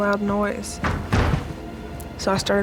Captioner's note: banging